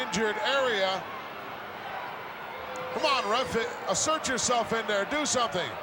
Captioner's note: applause